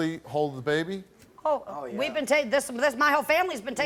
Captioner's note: stammers